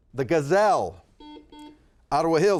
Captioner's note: buzzer buzzes